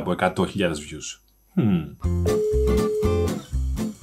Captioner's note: phone calls